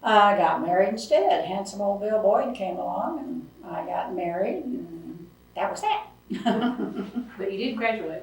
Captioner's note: laughs